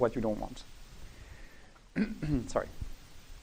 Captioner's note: clearing throat